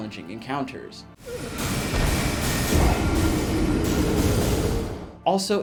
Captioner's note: spells being cast